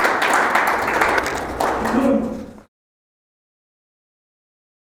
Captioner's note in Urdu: تالیاں